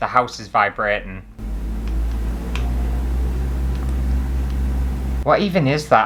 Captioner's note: rumbling Noises